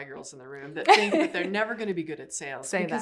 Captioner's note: laughs